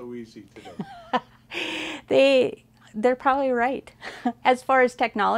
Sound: laughs

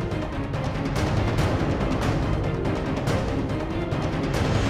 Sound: none

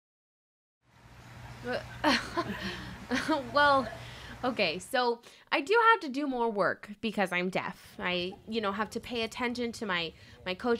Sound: laughs

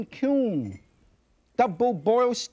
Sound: lid clinks softly

